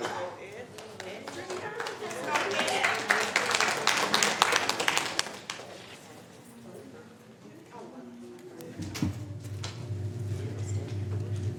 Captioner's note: applause